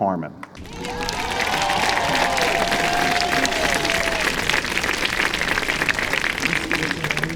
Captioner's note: applause